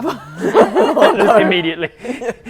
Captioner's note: laughing